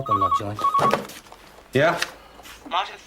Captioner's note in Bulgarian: Звънене на телефона